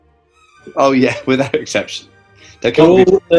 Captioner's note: laughs